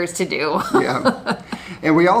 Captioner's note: laughs